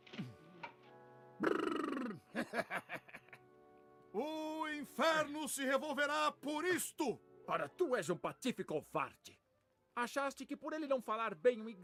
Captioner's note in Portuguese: risadas